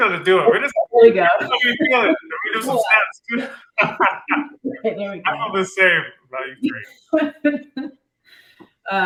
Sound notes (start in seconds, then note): 4.8 chuckles